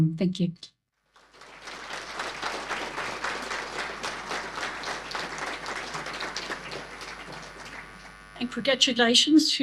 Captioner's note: applause